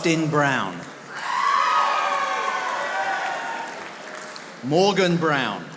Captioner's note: audience applauding